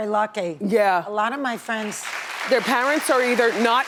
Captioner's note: audience applauding